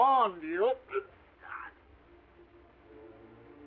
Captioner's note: Sherlock grunting; dramatic orchestral music